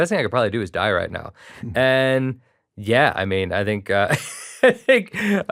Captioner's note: laughs